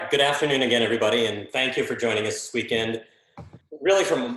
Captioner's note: mic cutting out